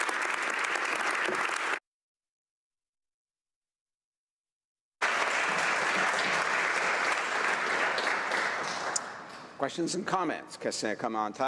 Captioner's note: applause